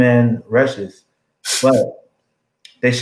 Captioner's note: laugh